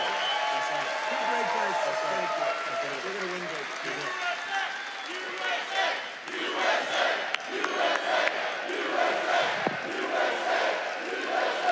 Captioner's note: audience chants "USA"